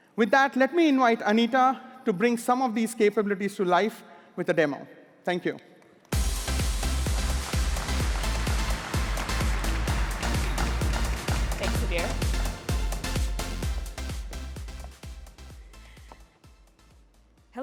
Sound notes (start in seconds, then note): 7.6 applause